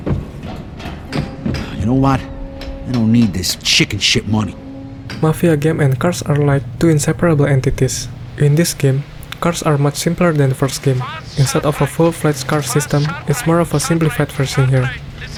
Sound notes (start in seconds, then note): 9.0 lip smack